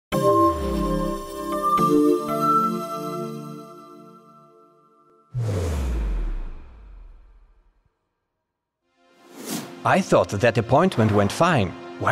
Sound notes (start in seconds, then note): 0.2 gentle music; 5.3 air whooshing